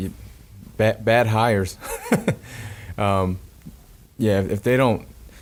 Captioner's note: laughing